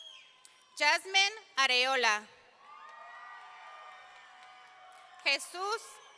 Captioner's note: audience cheering